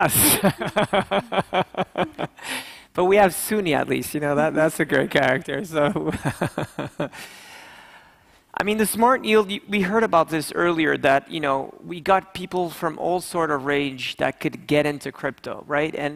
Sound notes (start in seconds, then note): 0.0 laughing; 6.0 laughs